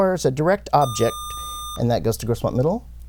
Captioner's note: buzzer